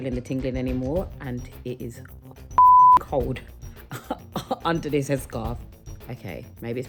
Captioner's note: beep; chuckles